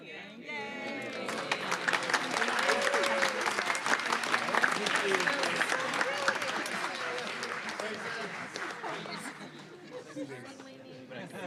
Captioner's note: laughter; applause